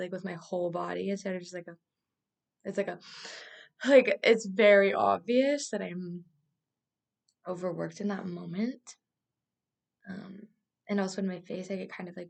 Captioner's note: breath